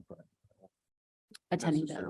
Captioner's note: speaks distorted